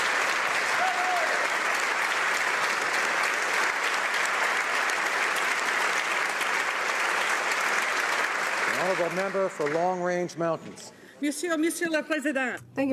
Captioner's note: applause